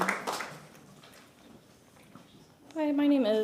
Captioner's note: applause